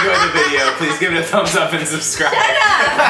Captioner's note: laughs loudly